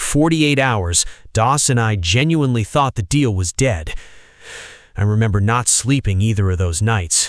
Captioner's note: shaky breath